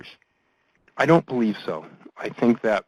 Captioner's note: voiceover